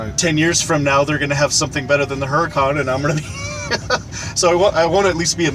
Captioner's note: laughs